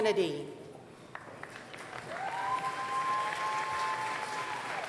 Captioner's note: applause